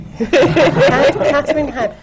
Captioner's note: laughter